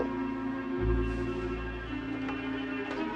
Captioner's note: Pintu terbuka